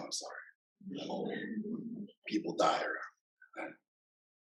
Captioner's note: laughter